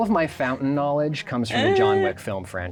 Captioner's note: laughs